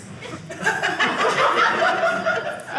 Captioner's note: audience laughing